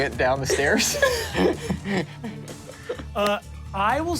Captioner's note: everyone laughs